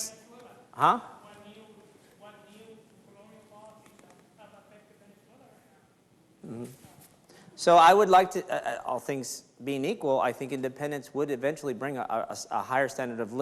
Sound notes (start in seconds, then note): 0.3 speaks faintly; 4.3 speaks faintly